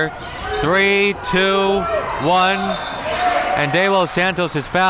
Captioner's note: whistle blows